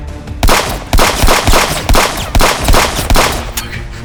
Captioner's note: guns firing